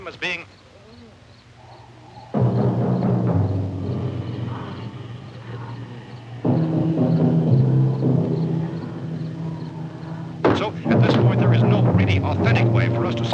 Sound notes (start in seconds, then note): 2.2 sudden, suspenseful, booming music; 10.4 radio resumes